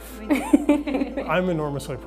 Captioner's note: laughs